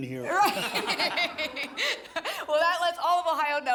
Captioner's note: laughter